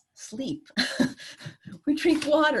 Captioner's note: laughter